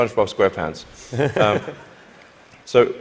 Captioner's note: laughter